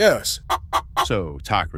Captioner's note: chicken begins clucking …